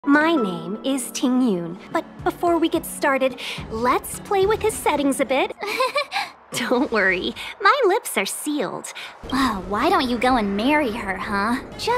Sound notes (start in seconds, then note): 5.6 nervously laughing